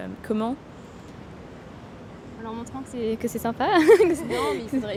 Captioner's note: laughter